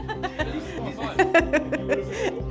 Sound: laughing

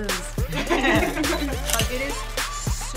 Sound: both laugh

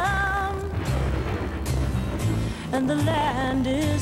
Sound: thunder

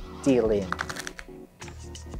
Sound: cards riffling

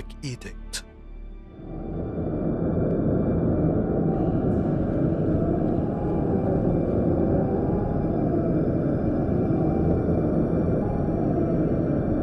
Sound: evil howling winds

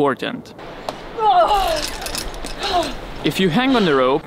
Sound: grunts, pants

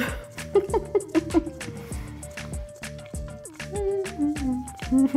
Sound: chuckles

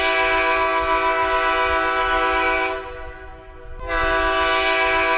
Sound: train horn hooting

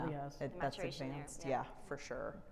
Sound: chattering

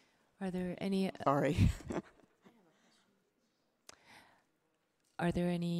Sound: chuckles

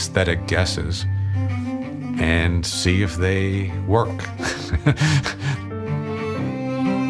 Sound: laughs

